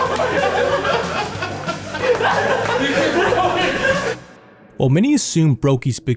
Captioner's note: teammates laughing